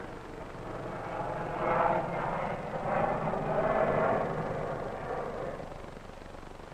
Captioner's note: airplane noises